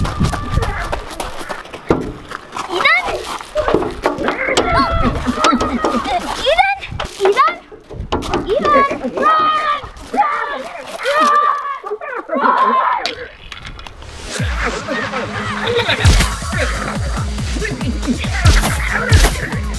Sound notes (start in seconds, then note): 0.1 running footsteps; 4.1 boys screams; 4.7 banging on window; 8.1 weird alien noises; 12.0 weird alien noises; 14.2 techno music; 16.5 Nerf Blaster shots